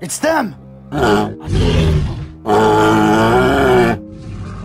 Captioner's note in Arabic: أصوات ترايسيراتوبس